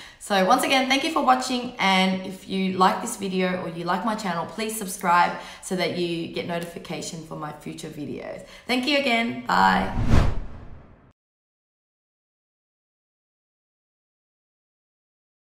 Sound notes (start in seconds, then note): 9.7 whooshing